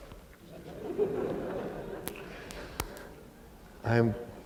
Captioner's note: laughter